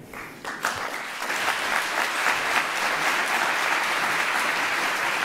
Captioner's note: applause